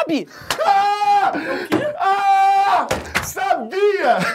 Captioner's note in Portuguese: grita e comemora